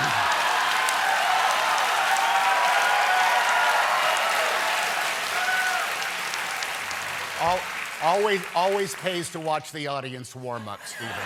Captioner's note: cheers and applause